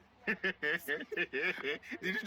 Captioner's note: laughs